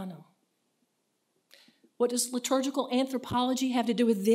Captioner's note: speaks in foreign language